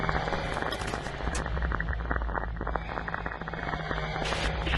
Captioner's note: sounds of a chemical recording instrument are added